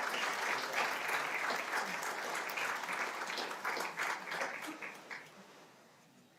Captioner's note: applause continues